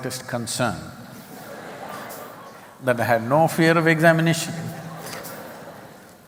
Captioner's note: laughter